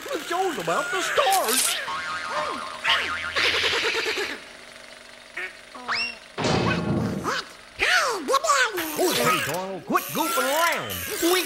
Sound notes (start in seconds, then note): 1.1 background spring recoiling; 3.0 Donald upset quacking; 5.9 background whistle sliding; 6.4 background metal clanging